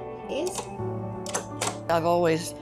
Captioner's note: machine clacking